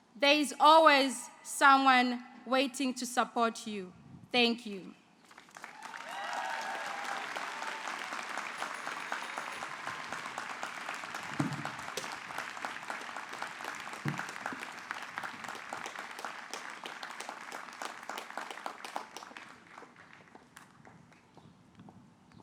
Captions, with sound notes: there is always someone waiting to support you. Thank you. [ Applause ]